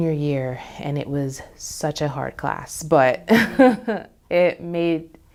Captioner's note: laughs